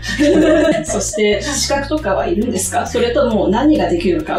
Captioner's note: translating in Japanese